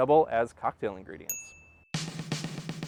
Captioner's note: chime